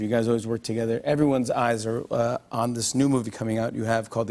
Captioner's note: none